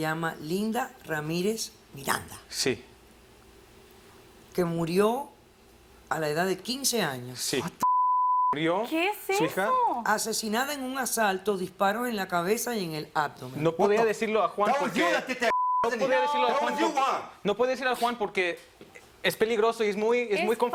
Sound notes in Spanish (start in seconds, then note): 7.8 Bip; 14.8 Hablan al unísono; 15.5 Bip